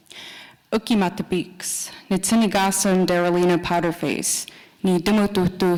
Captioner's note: speaking Nakoda language